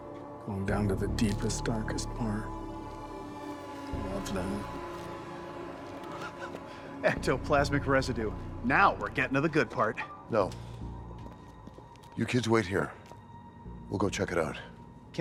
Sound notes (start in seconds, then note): 6.9 laughs